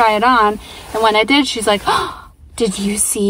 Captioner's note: audible gasp